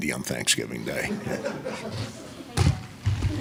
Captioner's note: laughing